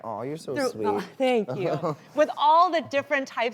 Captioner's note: laughing